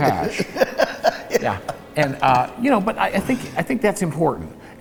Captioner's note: laughs